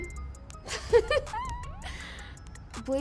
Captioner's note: laughs